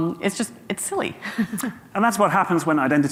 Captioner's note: chuckles